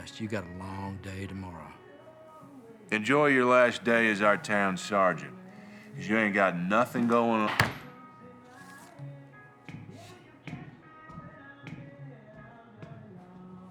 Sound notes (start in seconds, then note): 7.0 bullet thumping